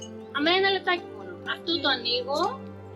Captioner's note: speaking in foreign language